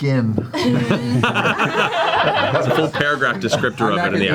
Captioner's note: all laugh